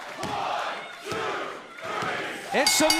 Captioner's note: fans chanting; bell ringing